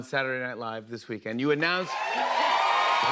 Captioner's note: cheers and applause